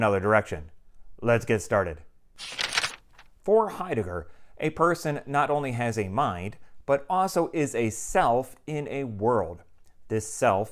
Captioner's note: page turning